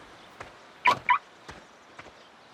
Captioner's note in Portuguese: alarme de carro